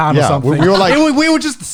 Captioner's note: laughs